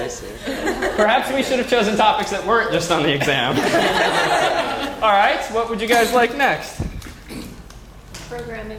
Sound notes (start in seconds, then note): 3.2 laugh